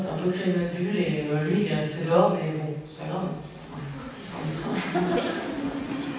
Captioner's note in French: rires